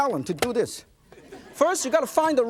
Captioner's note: audience laughs